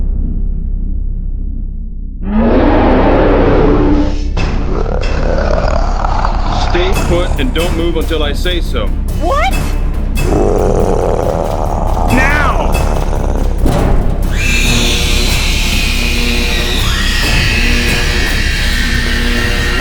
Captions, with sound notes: (creature roaring) (creature snarling) Stay put, and don't move until I say so! - What? (creature growling) - Now! (thumping) (creature squealing) (electricity sizzling)